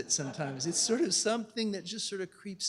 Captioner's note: laughter